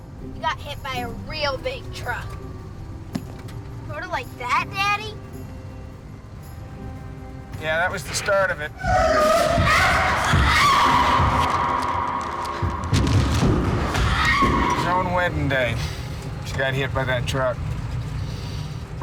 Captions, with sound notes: SHE GOT HIT BY A REAL BIG TRUCK. SORT OF LIKE THAT, DADDY? YEAH, THAT WAS THE START OF IT. ( grunting, screaming ) ( screams ) IT WAS ON HER WEDDING DAY SHE GOT HIT BY THAT TRUCK.